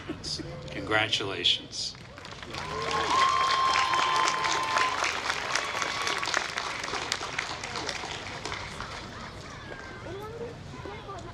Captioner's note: applause